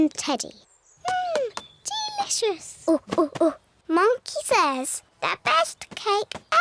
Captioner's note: chatters